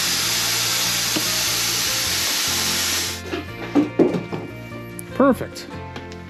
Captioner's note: drill whirring